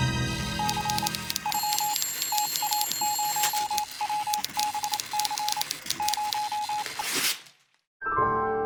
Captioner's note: suspenseful music; telegraph beeping, typing; piano gliss